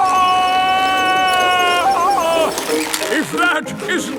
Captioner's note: yelling